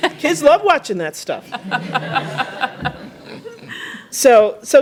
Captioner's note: laughter